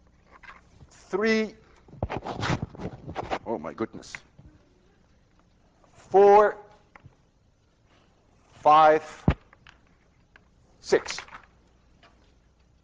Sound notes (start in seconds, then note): 1.8 loud rustling against microphone